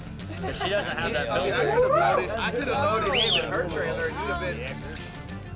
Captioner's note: men chattering